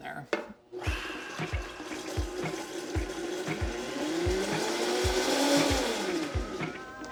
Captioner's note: blender whirs